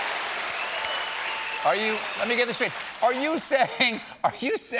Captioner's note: cheers and applause